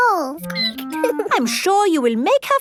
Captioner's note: squeaking